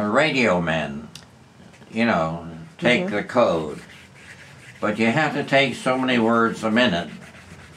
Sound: none

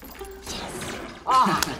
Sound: glass breaks; gun fires

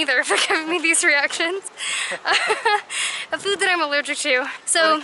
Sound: laughter

